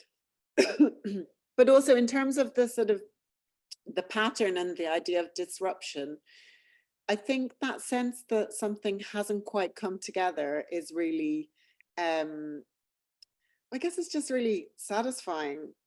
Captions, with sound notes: [coughing] But also in terms of the sort of the pattern and the idea of disruption, I think that sense that something hasn't quite come together is really, I guess it's just really satisfying